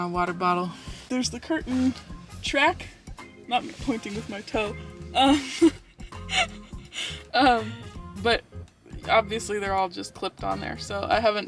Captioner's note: laughs